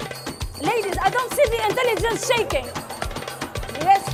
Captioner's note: laughter